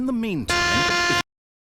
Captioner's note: buzzer